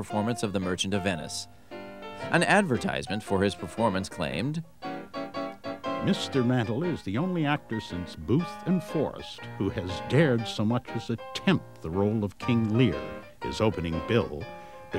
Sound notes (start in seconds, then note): 6.0 voiceover